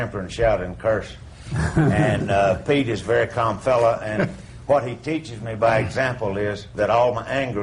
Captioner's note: laughter